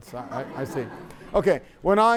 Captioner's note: laughter